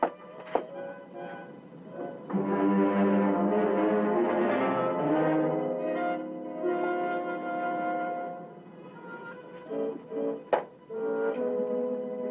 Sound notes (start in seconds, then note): none